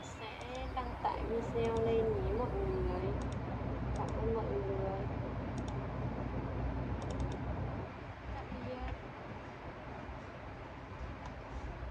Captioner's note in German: Fremdsprachige Sprache. Fremdsprachige Sprache. Fremdsprachige Sprache